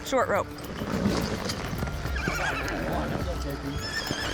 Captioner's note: horse whinnies